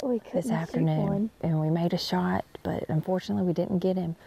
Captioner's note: gun fires